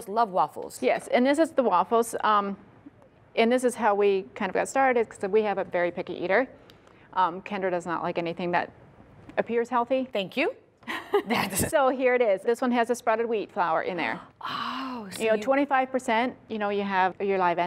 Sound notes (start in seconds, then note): 10.9 laughing